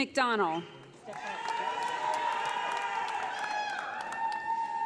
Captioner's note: audience applauding